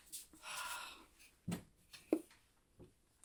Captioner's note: Hana sighs